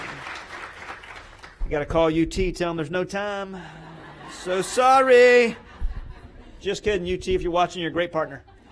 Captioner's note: applause